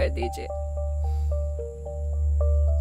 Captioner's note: Sighs